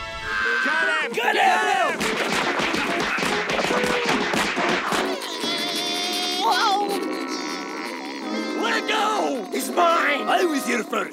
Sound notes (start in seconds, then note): 0.1 screaming; 5.0 groaning